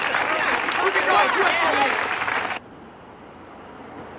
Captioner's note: chattering